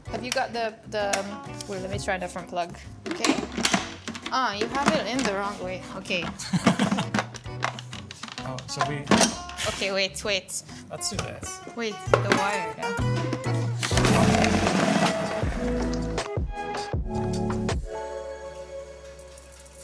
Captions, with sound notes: Have you got the, wait a minute, let me try a different plug. Okay. (clattering) Ah, you have it in the wrong way. Okay. - (laughs) Oh, so we... - Okay, wait, wait. - Let's do this. - Wait, the wire. (whirring) (upbeat music)